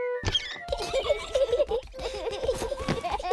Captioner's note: snorting